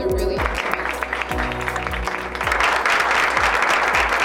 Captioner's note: audience applauds